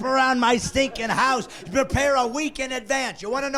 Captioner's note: laughing